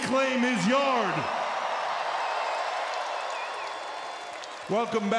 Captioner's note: crowd cheers